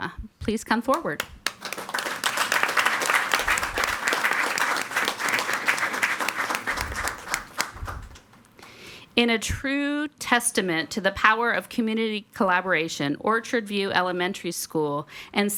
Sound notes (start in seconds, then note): 0.9 all applauding